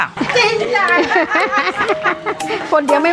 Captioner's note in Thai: เสียงหัวเราะ